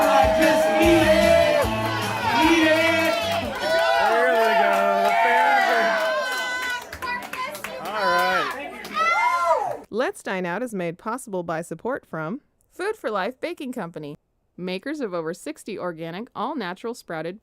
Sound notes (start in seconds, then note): 3.6 crowd applauding; 10.0 voiceover